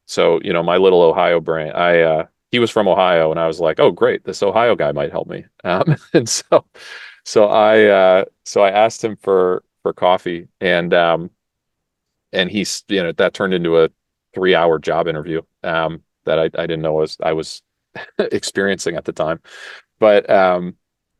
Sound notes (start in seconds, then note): 5.6 laugh